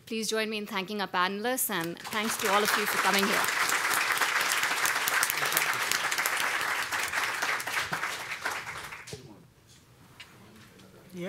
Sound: applause

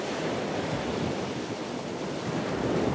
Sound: ocean sounds

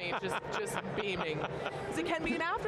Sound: laughing

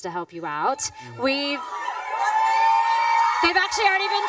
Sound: audience clamoring

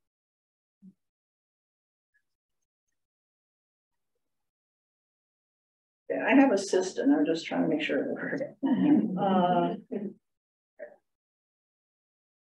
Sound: laughter

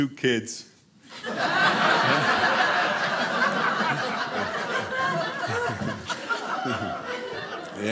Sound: audience laughing

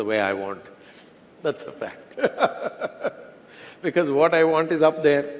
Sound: laughs

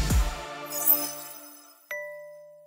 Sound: gentle chimes ringing; bell dinging

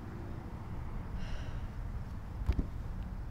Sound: sighing

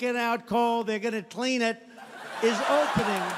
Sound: audience laughing

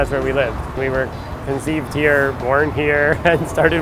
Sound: laughing

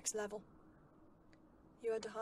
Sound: wind blowing

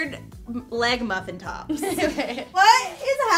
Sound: laughing

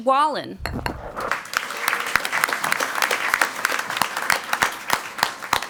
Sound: crowd clapping

